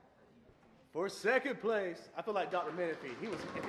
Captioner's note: applause & pounding